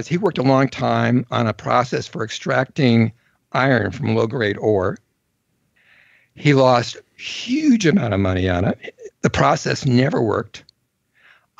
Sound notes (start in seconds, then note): none